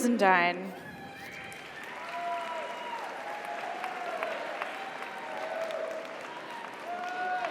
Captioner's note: audience cheers; audience applauds